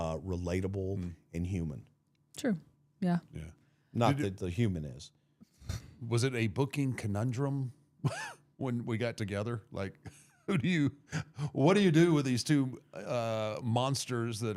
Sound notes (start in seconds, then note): 7.9 laughing; 8.0 chuckling